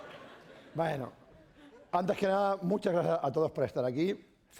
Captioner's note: laughter; speaking spanish